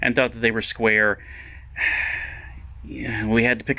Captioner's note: sighs